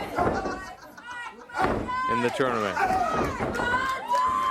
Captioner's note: crowd chatter